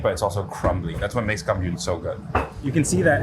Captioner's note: speaks in foreign language